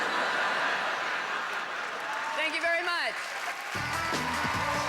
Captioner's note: howling laughter; upbeat, applause